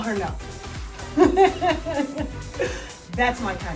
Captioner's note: laughs